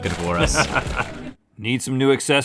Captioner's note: laughing